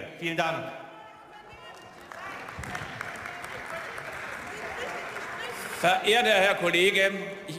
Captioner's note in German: Beifall und Zwischenrufe